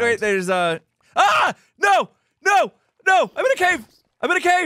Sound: screams

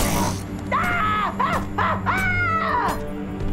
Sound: screaming

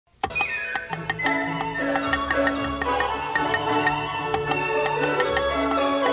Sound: joyful music; knife tapping

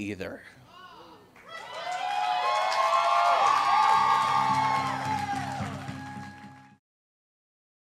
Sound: audience applauds and cheers

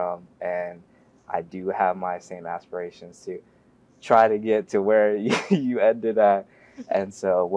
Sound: laugh

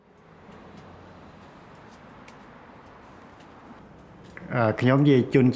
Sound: pruning shears clicking

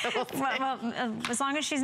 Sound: laughter

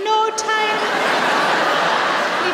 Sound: laughter

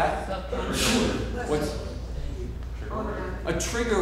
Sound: all students talking

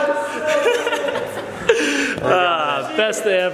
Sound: laughs

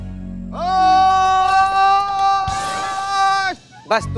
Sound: yelling

